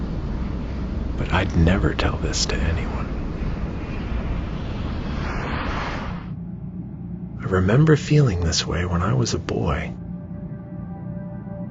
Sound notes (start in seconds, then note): 3.9 plane engine roaring